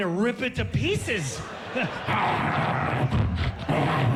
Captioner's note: growling